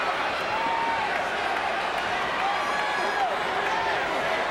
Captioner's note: crowd cheers